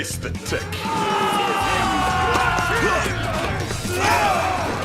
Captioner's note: miscillaneous henchmen making screaming noises